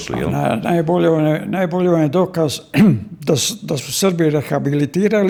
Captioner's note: coughs